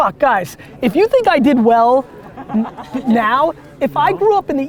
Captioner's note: laughing